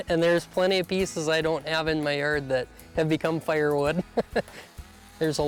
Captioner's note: laughs